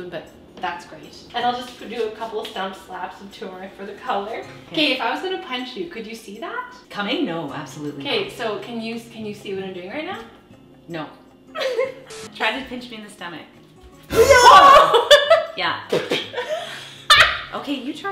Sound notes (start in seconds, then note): 11.6 laughing; 14.2 both shouting; 16.4 mouth sounds; 17.2 laughing